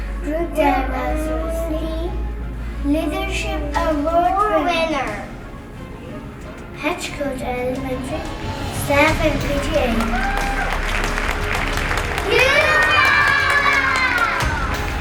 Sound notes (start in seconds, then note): 10.9 applause